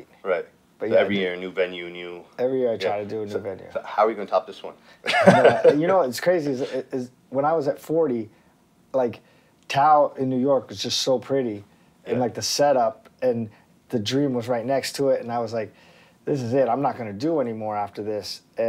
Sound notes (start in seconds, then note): 5.0 laughter